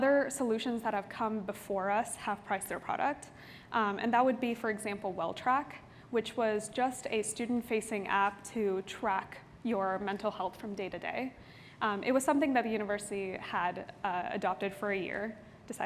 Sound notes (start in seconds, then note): none